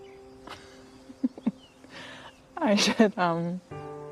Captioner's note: laughs